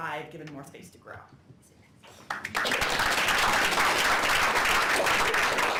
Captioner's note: applause